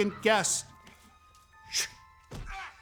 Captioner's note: shush